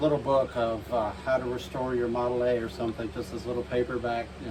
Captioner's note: none